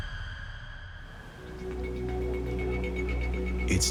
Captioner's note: dramatic music; birds chirping